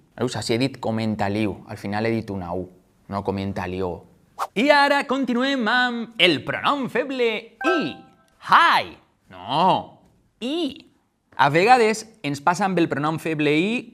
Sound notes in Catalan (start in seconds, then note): 8.3 en anglés; 9.4 en valencià